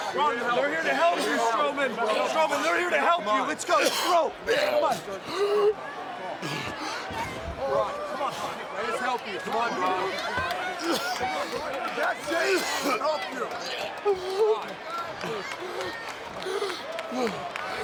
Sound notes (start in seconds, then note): 4.1 Strowman gagging; 14.0 overlapping chatter